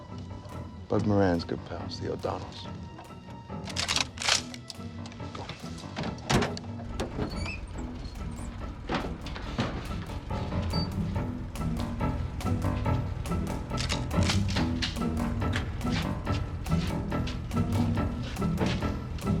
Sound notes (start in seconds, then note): 3.6 gun cocking; 10.3 tense music